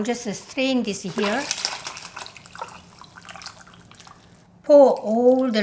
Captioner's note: water pouring